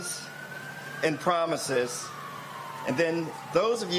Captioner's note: sirens